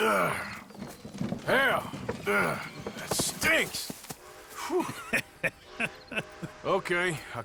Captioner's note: sounds of effort; Granger laughs at Arthur